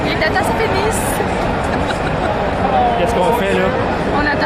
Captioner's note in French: rires